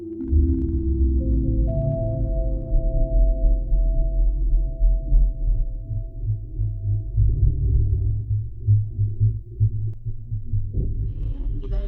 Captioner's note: distorted PA